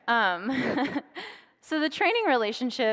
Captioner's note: laughs